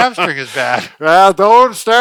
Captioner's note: laughs